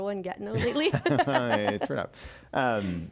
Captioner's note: laughs